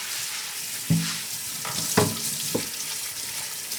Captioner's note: running water